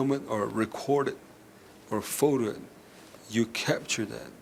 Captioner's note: none